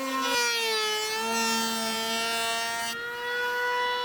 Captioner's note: tool whirs